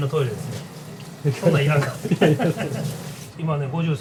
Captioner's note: laughs